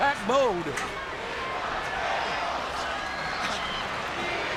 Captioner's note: spectators cheering